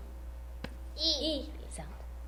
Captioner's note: tap